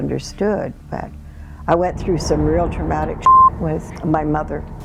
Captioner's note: beep